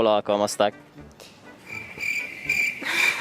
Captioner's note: cricket sounds